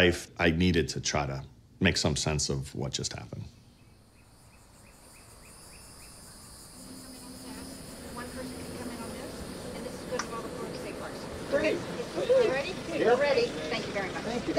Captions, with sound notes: I needed to try to make some sense of what just happened. (birds chirping) (indistinct conversation) - They're ready? - They're ready. - Thank you very much. - Thank you.